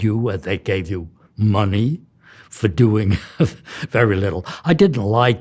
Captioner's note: laughs